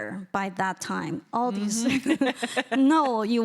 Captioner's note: chuckles